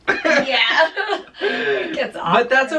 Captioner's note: both chuckling